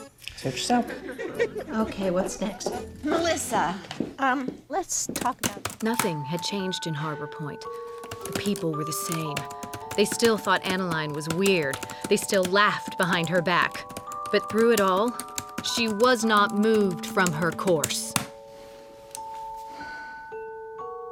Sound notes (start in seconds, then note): 5.2 typing; 19.6 sighs